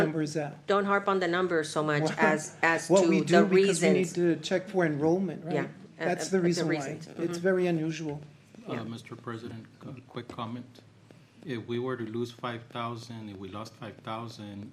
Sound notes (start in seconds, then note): none